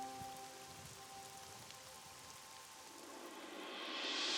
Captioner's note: rain pouring